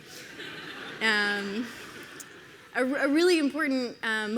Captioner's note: audience laughs